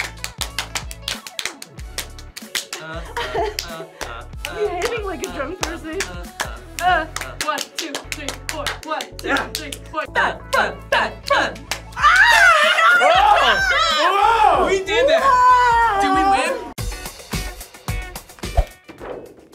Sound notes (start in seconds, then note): 0.0 hands clapping; 2.8 laughs; 16.8 upbeat music